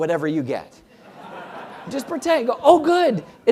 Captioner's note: laugh